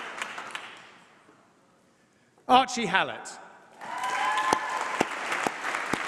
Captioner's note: applause